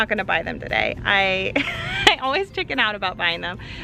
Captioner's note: laughs